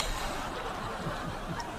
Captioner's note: laughing